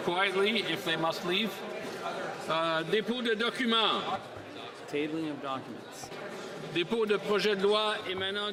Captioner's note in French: voix de l'interprète